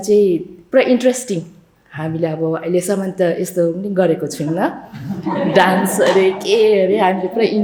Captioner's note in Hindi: हंसी